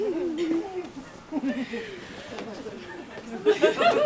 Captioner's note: audience laughs